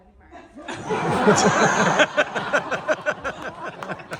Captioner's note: audience laughter